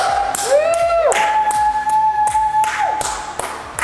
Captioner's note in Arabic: هتاف العائلة